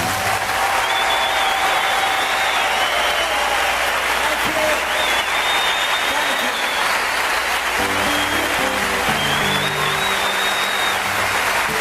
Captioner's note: audience applauses enthusiastically